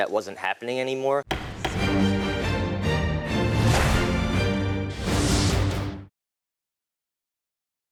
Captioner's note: gavel thumping; dramatic music